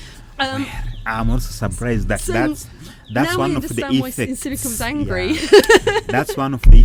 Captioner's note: laughing